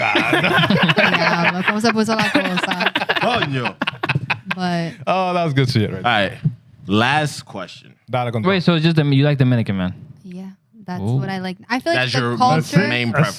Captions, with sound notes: (Laughter) (Speaking Spanish) But-- Oh, that was good to hear. All right, last question. (Speaking Spanish) Wait, so you like Dominican, man? Yeah, that's what I like. I feel like the culture-- That's your main preference.